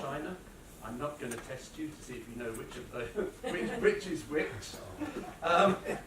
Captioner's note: laughter